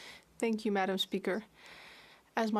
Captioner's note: speaking in French